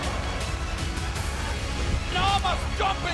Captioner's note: crowd cheering